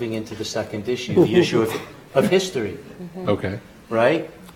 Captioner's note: laughing